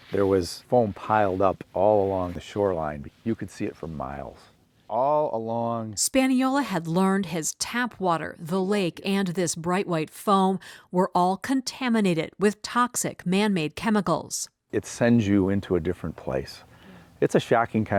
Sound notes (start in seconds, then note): 6.6 voice-over